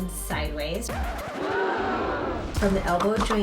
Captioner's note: audience gasping